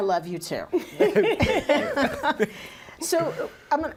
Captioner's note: laughing